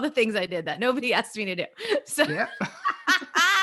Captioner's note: laughs